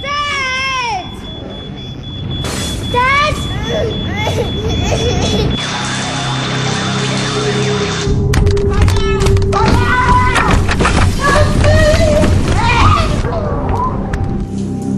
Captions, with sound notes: Dad! Dad? *CRYING* Let me out! Let me ooout! Help me! Help me!